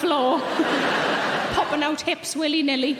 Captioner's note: audience laughing